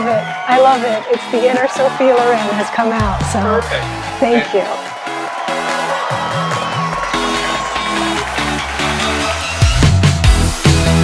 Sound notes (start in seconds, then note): 5.2 crowd cheering; 6.8 upbeat techno music continues